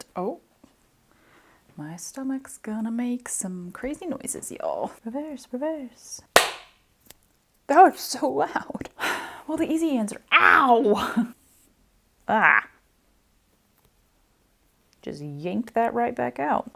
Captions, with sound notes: Oh. My stomach's gonna make some crazy noises, y'all. Reverse, reverse. [Loud clap] That was so loud. [Huff] Well, the easy answer-OW! Ah. Just yanked that right back out.